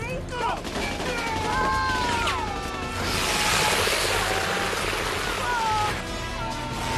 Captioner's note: guns firing; both wailing; paper tearing